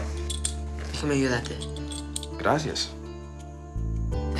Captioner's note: speaking Spanish